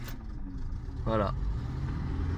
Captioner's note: starter's sound in background